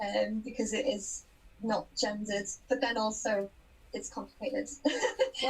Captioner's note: laughs